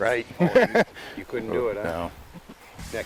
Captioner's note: laughs